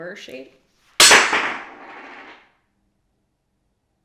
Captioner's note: smack